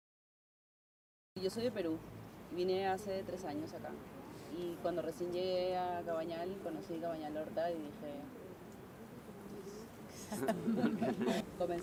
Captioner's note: laughs